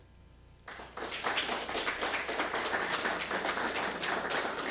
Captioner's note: applause